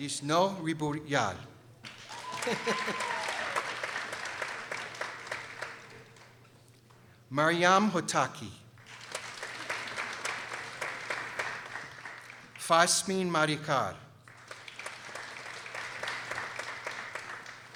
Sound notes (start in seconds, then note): 1.8 people applauding; 2.1 laughing; 3.6 people applauding; 8.8 people applauding; 14.2 people applauding